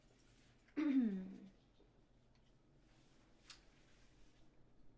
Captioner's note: Gabrielle clears throat